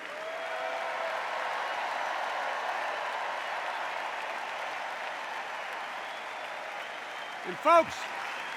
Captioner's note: extended cheers and applause